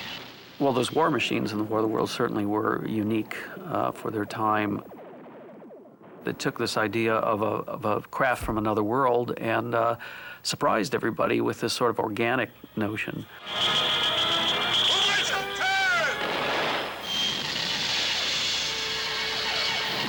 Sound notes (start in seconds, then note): 4.8 lasers firing; 13.2 alien craft whirring; 14.4 French dub